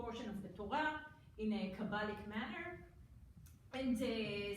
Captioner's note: foreign language